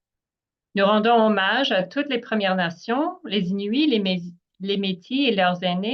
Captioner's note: speaking in French